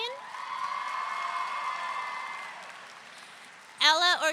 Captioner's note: audience cheering